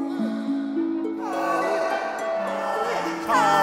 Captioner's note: voices chanting